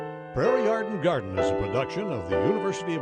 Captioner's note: gentle piano music; voiceover